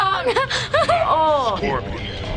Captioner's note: laughs